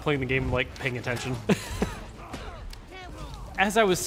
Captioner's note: laughs